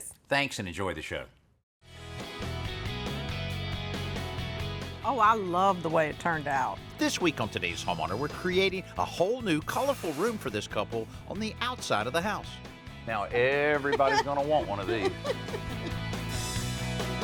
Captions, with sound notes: (THEME MUSIC PLAYING) Oh, I love the way it turned out. LIPFORD:This week on Today's Homeowner, we're creating a whole new colorful room for this couple on the outside of the house. Now everybody's gonna want one of these. (LAUGHS)